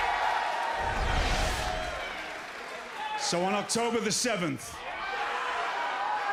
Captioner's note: crowd cheering